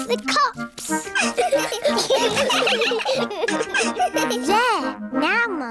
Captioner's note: all giggling